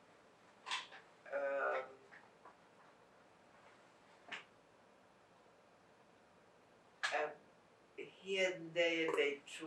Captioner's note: pauses 8 seconds